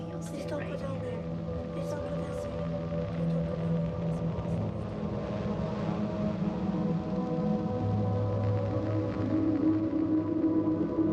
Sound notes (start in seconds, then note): 3.3 soft dramatic music; 3.3 white noise